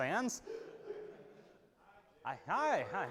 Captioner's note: audience laughing